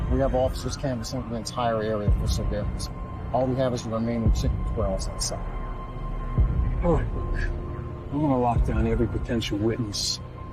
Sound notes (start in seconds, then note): 4.4 speaks faintly